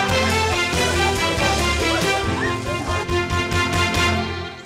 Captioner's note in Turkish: Gülme sesleri